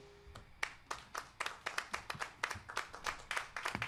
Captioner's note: applause